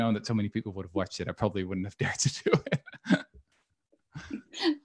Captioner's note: laughing